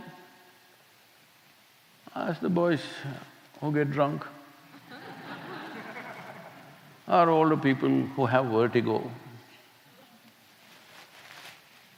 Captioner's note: laughter